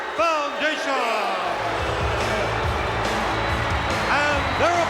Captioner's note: audience cheering; upbeat music